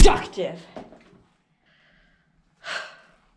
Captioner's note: exhales